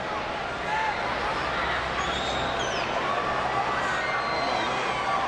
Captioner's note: audience chattering